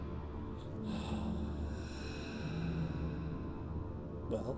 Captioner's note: Miles sighs